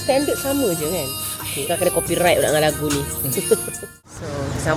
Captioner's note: laugh